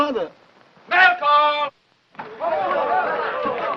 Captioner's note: soldiers chattering